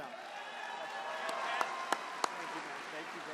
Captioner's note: applause